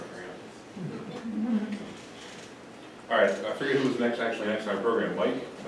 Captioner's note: audience laughs lightly